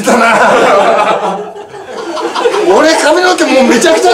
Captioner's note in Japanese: 笑い